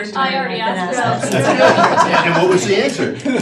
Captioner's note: laughing